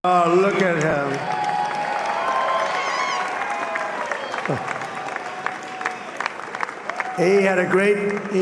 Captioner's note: applause